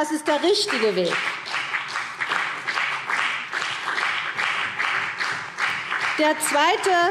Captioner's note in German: Beifall CDU und BÜNDNIS 90/DIE GRÜNEN